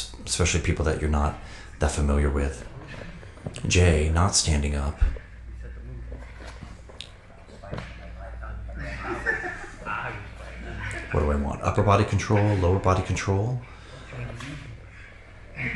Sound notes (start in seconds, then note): 7.2 people chattering; 8.0 people laughing